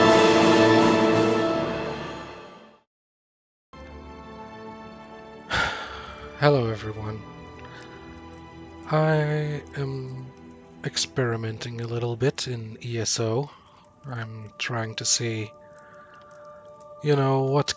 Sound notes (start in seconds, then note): 5.5 big sigh